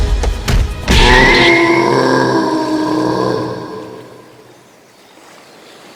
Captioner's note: power punch and the Gang of Punks' scream of death